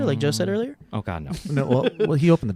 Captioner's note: laughing